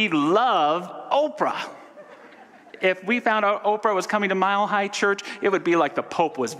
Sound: audience laughter

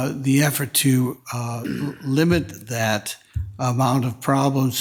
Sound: attendee clears throat

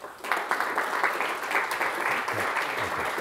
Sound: applause

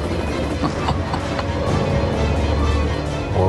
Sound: low laughter

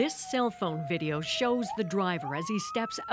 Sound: sirens

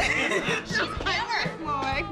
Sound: laughing

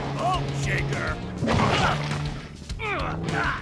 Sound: squishing; grunting with effort

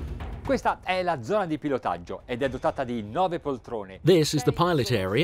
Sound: speaking in foreign language

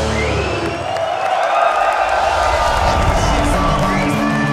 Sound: cheers and applause

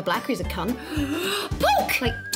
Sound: gasps

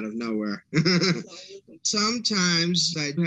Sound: laughter

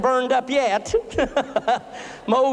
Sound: laughter

